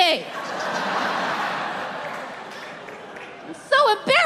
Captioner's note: audience laughs